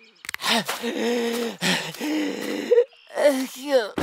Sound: grunting; wheezing

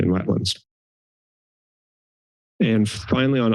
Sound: silence

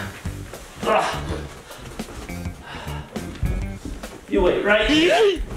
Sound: heavy breathing

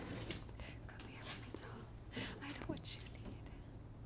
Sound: whispering

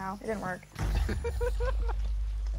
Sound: laughs

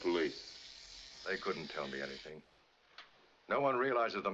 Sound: shaver Stops

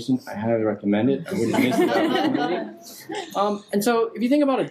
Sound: people laughing

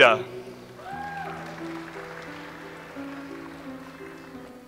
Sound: audience applauds

